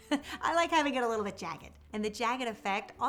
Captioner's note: laughs